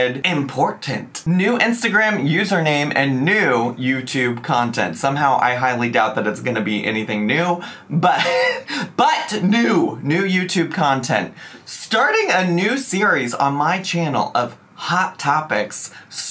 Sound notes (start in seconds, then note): 8.0 chuckles